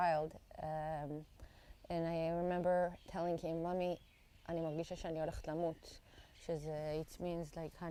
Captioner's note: hebrew